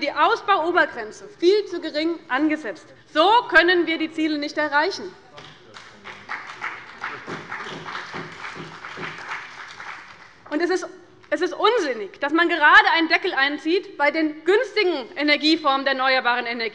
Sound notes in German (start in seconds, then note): 5.4 Beifall bei dem BÜNDNIS 90/DIE GRÜNEN, der CDU und der LINKEN